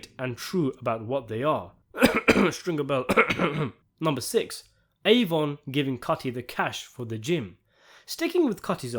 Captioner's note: Cough Stringer Bell